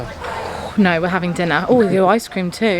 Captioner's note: draws breath